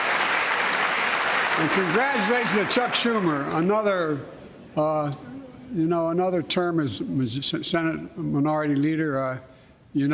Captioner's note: applause